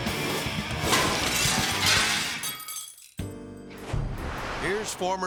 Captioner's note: upbeat music; glass shattering